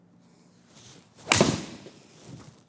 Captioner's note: swing Sound